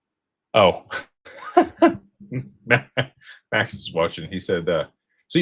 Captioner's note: laughter